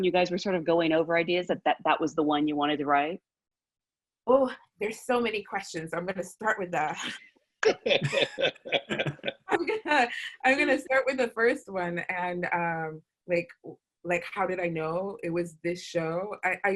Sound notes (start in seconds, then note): 7.6 laughter